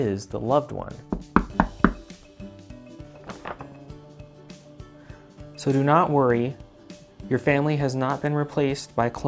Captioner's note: knocking at the door